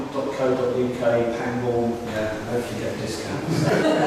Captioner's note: laughter all round